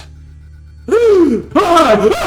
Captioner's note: gasp